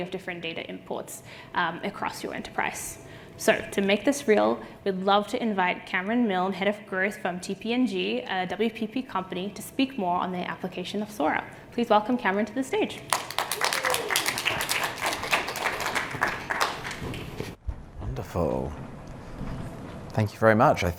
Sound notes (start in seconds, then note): 17.3 applause